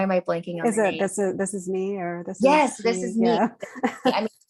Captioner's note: laughs